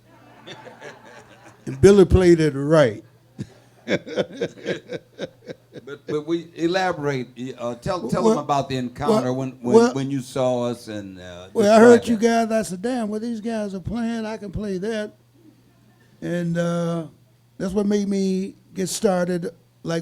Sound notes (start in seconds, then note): 0.0 audience laughing; 0.4 laughing; 3.3 laughs